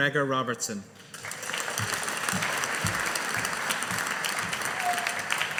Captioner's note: audience applauding